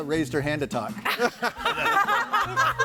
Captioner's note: audience laughing